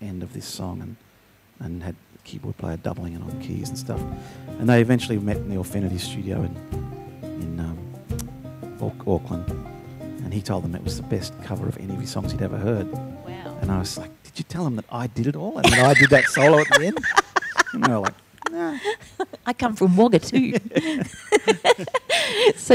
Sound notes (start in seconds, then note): 15.6 laughs loudly; 20.2 laughs